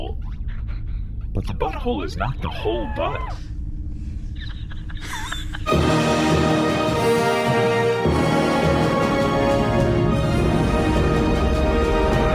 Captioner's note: Pleck and Nermut wheeze